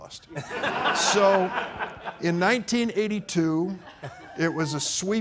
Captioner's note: audience laughing